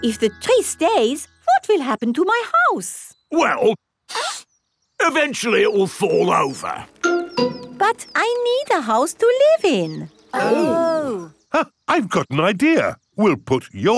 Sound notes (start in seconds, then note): 4.1 sniffs; 12.1 gasps